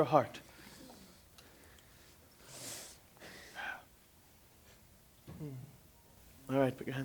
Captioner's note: clothes rustling, breathing